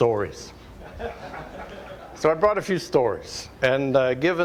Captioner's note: audience laughter